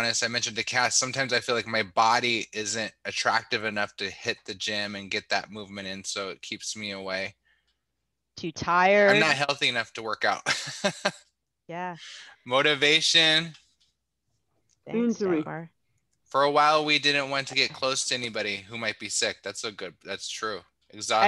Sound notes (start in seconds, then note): 10.4 laughter